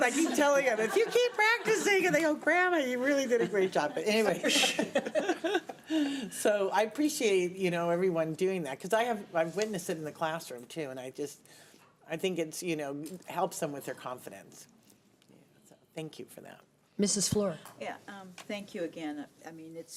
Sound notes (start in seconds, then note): 5.2 laughter